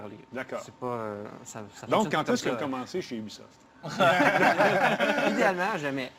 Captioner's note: laughs